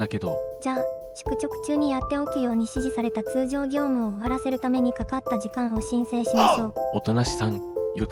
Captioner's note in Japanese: 男衆の掛け声